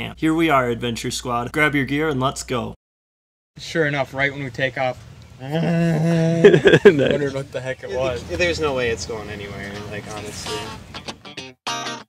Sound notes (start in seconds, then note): 5.8 vrrrrrrr